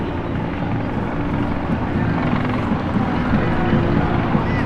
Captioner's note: helicopter whirs